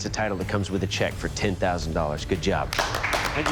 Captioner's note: applause